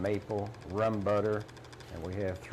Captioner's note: machine clattering